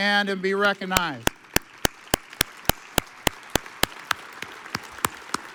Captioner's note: audience applauds